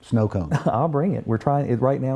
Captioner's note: chuckles